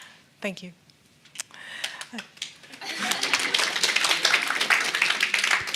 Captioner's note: audience clapping